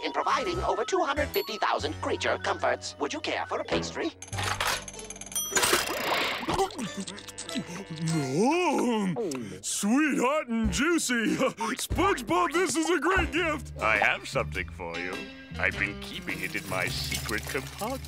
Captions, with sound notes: over 250,000 creature comforts. Would you care for a pastry? [ticking] [chewing] Yum! Sweet, hot, and juicy. SpongeBob, this is a great gift! I have something for you. I've been keeping it in my secret compartment.